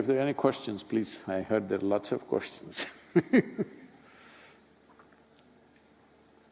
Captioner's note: laughs